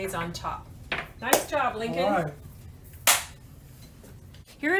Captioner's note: high five sound